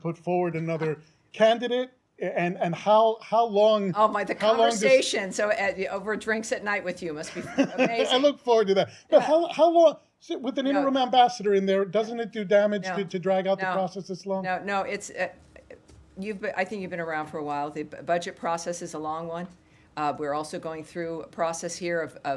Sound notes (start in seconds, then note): 7.2 laughter